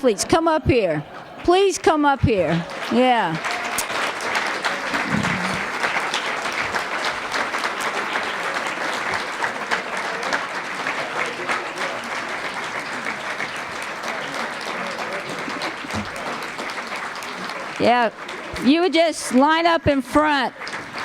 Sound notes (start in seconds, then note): 3.7 applause